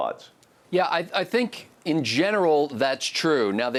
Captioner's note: voiceover